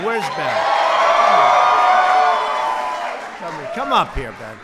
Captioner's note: applause